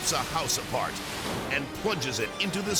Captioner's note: waves pounding